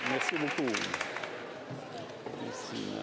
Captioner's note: cheers & Applause